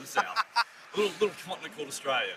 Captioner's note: laughs